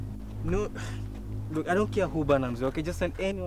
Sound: grunts

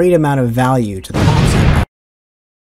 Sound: explosion

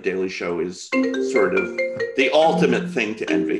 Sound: phone ringing

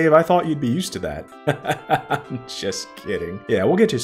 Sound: laughs

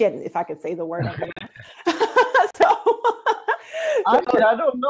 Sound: laughs

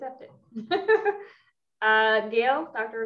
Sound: laughs

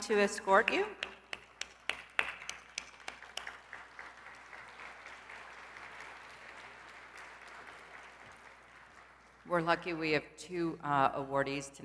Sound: applause

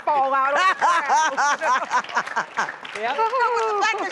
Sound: laughter and applause

